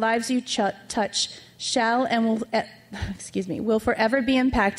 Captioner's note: stutters